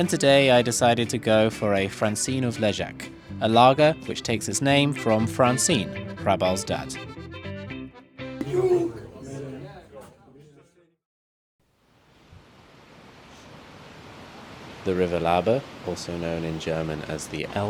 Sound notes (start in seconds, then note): 8.4 music stops, sounds of revellers in the background; 12.0 sound of river flowing